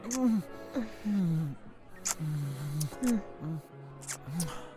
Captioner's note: breathless